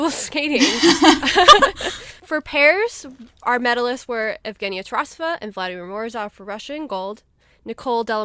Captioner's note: hosts laugh